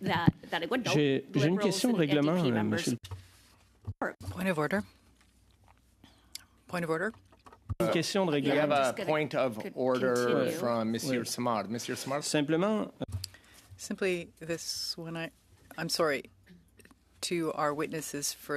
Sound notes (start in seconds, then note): 5.9 speaking French